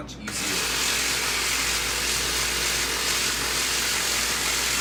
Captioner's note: machine whirring